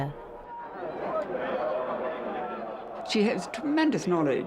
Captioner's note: audience chatter